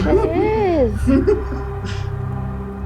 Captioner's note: laughter